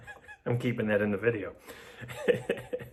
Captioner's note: laughs